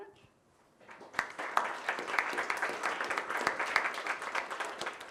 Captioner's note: audience applauds